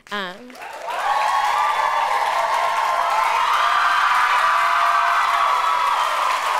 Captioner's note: applause